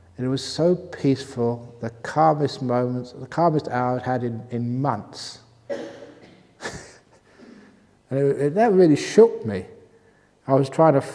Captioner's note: chuckle